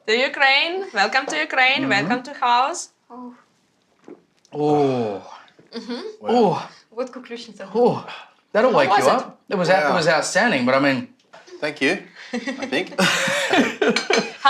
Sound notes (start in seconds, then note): 4.4 men gasp; 7.0 speaks ukrainian; 12.2 laughter